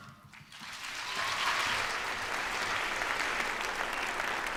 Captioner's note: applause